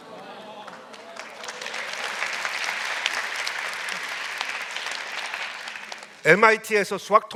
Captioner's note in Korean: 박수